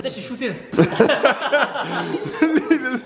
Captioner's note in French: rire